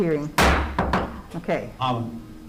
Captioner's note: gavel bangs